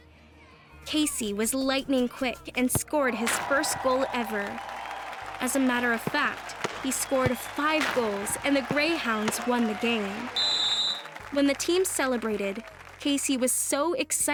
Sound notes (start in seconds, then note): 3.9 cheering; 9.9 whistle blows